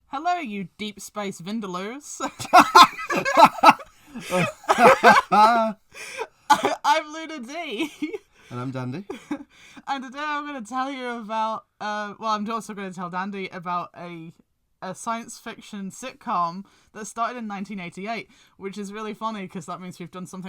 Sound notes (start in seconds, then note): 2.2 laughs having been taken off guard; 6.1 Laughs at Dandy